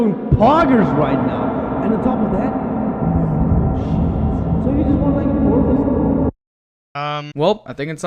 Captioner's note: slowly says gibberish while it reverbs and cuts off